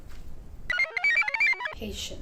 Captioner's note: computer chirps